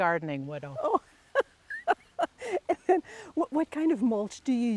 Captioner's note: laughing